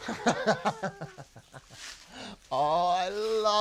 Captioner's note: laughs